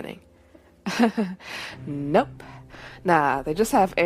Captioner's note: sarcastic laugh